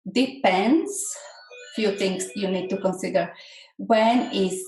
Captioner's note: phone rings